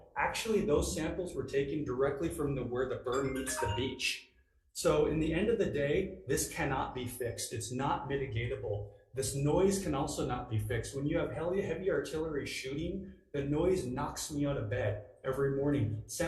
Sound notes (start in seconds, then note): 3.1 phone timer rings